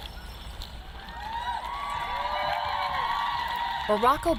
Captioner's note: natives cheering